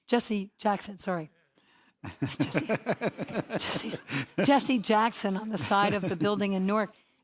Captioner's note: laugh